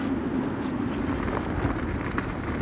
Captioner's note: none